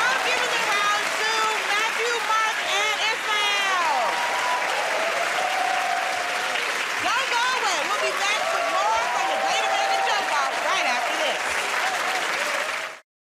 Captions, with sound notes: -Alright. I'm giving the round to Matthew, Mark, and Ismael. [ Cheers and applause ] Don't go away. We'll be back with more from "The Great American Joke Off" right after this.